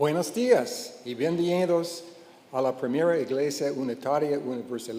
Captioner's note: speaking in Spanish